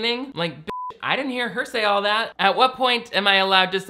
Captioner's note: beep